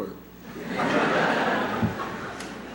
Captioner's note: laughter